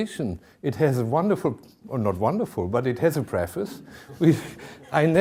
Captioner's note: chuckling